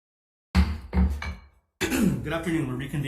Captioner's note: gavel bangs